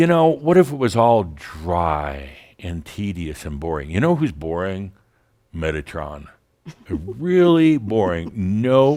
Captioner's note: giggles